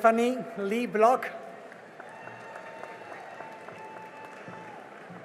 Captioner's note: cheering and applause